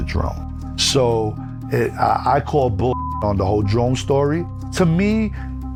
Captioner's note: beep